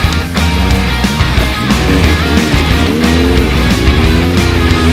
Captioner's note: catchy music continues; vehicle engine revving